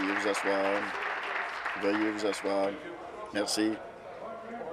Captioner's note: applause